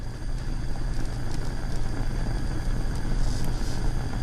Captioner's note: chemicals crackling